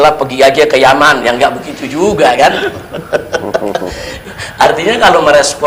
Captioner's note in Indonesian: tertawa